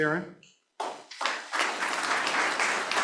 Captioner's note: applause